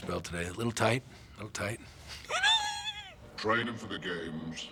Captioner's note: laughs